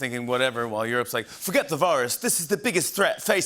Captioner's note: English accent